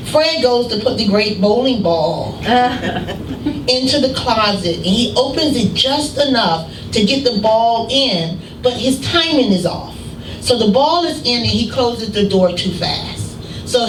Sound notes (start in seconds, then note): 2.4 laughter